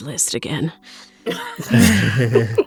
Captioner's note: EVERYONE laughs